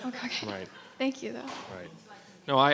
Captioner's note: audience laughing